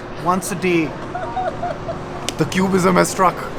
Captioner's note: laughing